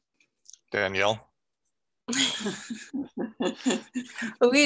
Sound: laughter

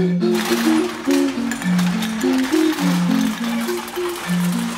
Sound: clattering

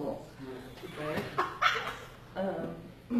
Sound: laughter

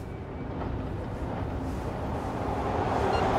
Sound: subway rumble; phone timer beeping

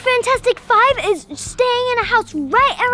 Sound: none

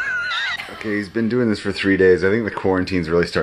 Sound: laughter; disembodied Voice

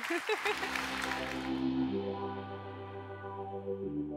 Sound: audience applauding

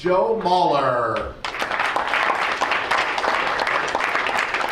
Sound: crowd applauds

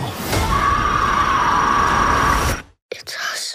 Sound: scream

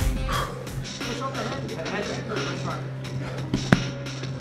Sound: chattering

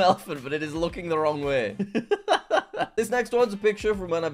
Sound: laughing

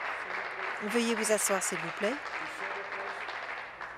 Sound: applause

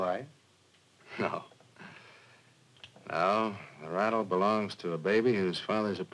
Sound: chuckles

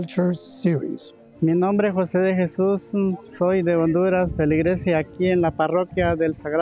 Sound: speaking in Spanish

